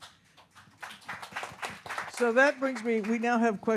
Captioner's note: audience applauds